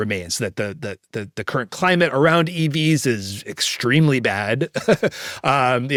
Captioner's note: laughs